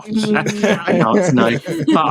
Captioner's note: laughing